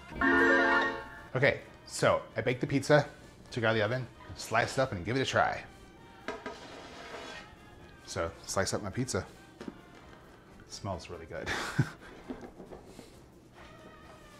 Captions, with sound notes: (melodic sting) Okay, so I baked the pizza, took it out of the oven. Let's slice it up and give it a try. So, slice up my pizza. Smells really good. (chuckles)